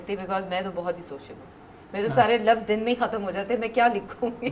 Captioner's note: chuckles